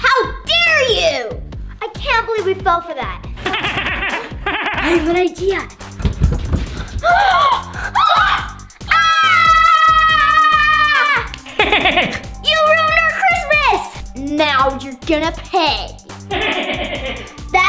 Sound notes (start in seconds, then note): 3.4 Grinch laughing; 6.7 kids gasping; 8.8 kids yelling; 11.2 Grinch laughing